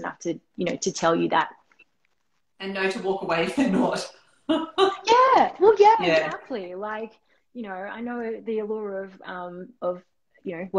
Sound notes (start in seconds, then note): 4.9 laughing